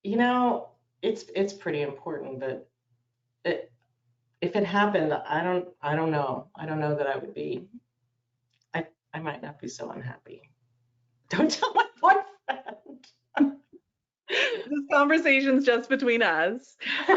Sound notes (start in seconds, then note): 14.3 laughs